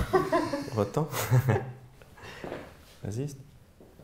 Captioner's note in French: Rire